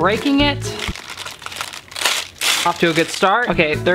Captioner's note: wax paper rips